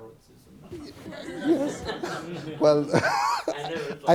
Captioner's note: everyone laughs; laughing